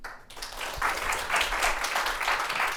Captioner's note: applause